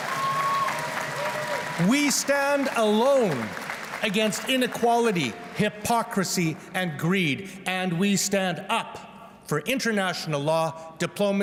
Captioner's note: cheers and Applause